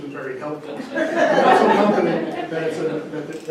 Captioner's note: audience laughing